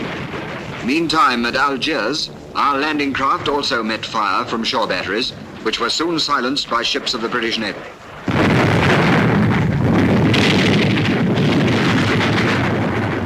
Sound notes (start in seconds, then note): 8.1 bombs exploding